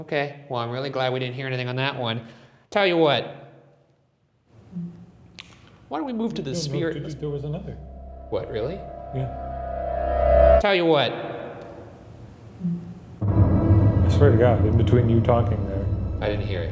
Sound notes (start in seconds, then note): 6.0 faint humming; 6.7 low ominous music; 11.6 faint humming; 13.2 dark foreboding music